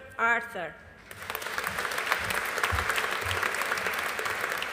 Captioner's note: audience applauding